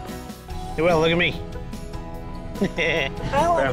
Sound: laughs

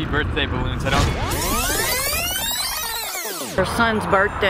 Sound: reverse sound

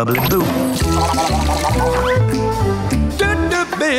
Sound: gargling

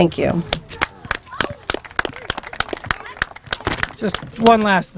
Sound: applause

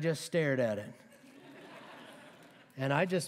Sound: laughter

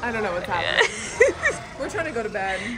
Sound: laughs

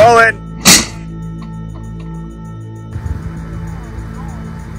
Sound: door slams

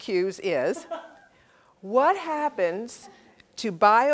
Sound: laugh

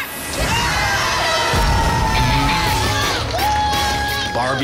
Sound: crowd cheers

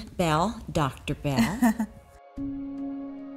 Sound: brooding music; laughs

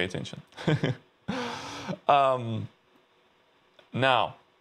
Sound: laughs

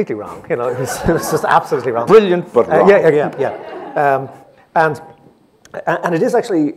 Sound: laughs

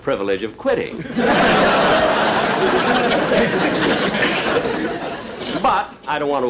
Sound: audience Laughing

